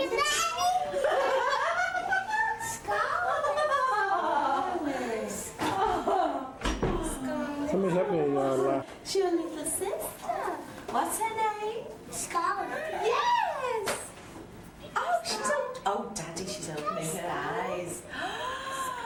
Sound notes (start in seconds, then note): 0.9 laughter